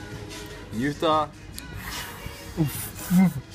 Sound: makes a happy sound

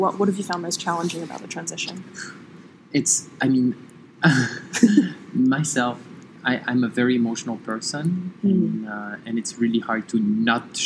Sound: laughs

